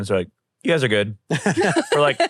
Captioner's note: laugh